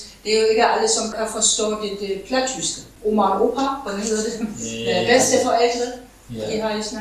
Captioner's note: in Low German